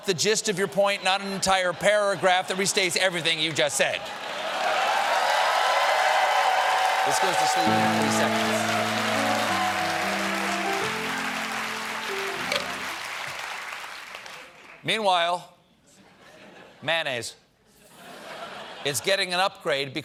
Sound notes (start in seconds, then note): 7.6 piano riff; 8.2 cheers and applause